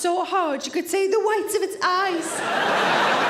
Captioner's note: audience laughing